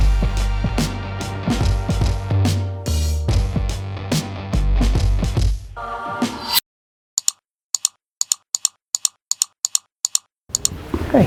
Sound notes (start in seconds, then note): 0.0 mellow hip hop music; 7.5 clicking